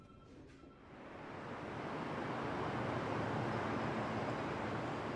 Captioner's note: traffic humming